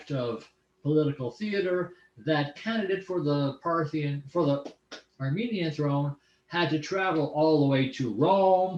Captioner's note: armenian